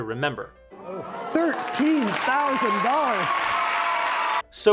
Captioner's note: cheers, applause